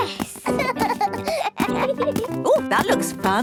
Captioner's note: both laugh